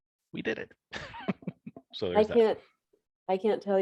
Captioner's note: laughing